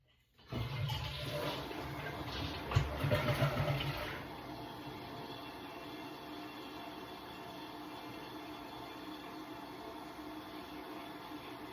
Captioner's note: the sound of my toilet flushing